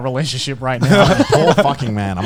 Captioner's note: chuckling